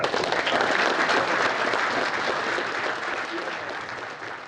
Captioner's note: crowd clapping